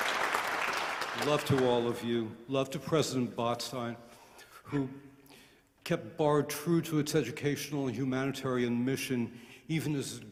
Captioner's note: applause